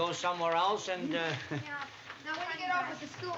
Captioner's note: chuckles